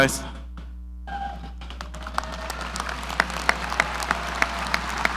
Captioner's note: audience cheering